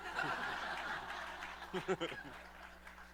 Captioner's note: laughter